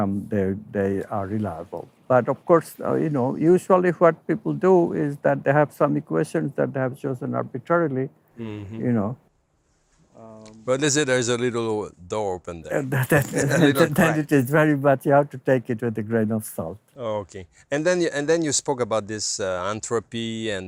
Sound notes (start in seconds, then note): 13.0 laughing